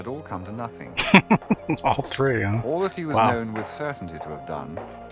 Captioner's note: laughing